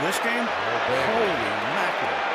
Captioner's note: cheering